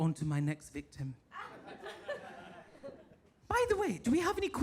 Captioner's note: audience laughs